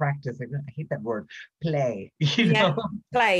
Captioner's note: laughs